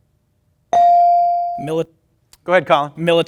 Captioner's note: bell ring